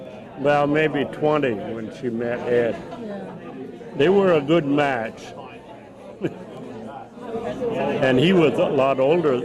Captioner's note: chuckles